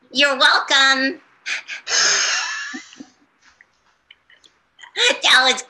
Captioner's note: laughs